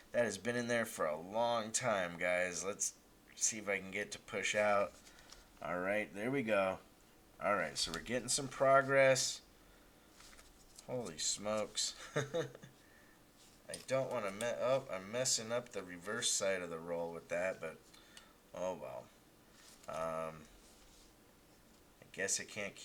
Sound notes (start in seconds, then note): 12.0 laughs